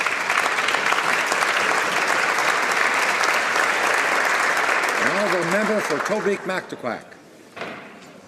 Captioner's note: applause